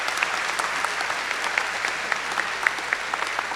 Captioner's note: applause